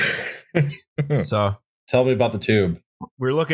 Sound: laughter

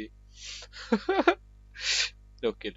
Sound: cries

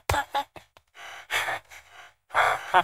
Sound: ahahahahahah

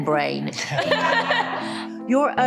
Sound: all laughing

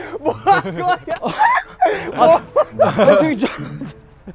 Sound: even he is speechless / Bawling

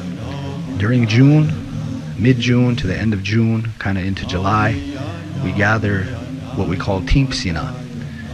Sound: nakona language spoken

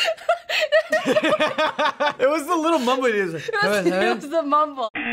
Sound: laughs; buzzer

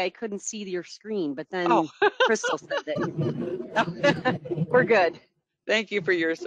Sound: laughing

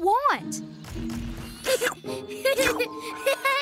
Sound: giggling

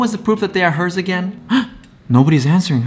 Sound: gasps

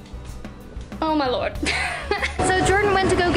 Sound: laughs

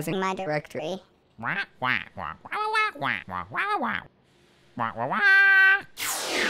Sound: squawking

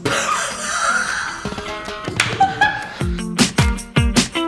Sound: delirious laughter

